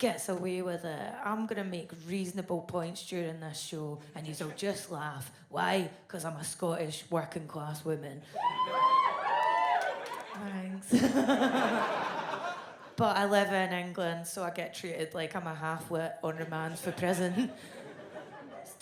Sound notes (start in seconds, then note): 8.3 women in audience whoop; 10.9 laughs